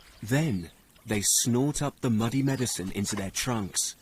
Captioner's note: birds chirping